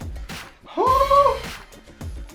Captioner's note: shrieking